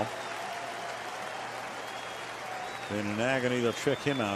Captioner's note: applause, cheering